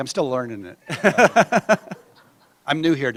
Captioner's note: laughter